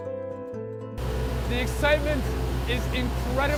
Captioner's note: speaking over loud noises